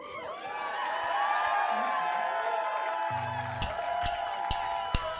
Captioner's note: audience cheering